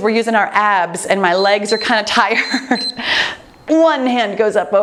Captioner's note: timer beeps